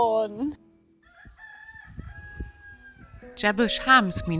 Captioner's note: cock crowing